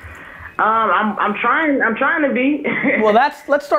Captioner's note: laughs